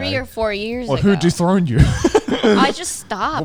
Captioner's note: laughs